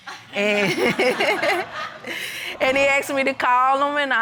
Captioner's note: chuckles